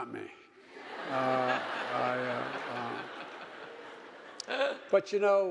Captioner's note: audience laughing